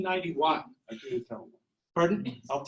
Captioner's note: faintly speaking